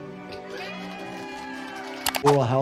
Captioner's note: people cheering